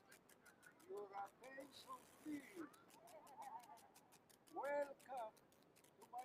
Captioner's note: guide speaking foreign language